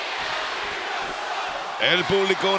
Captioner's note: applause